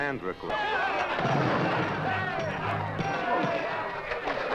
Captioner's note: men shouting